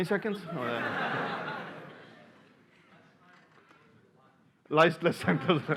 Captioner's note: laughter